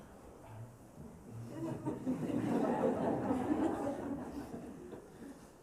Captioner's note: laughter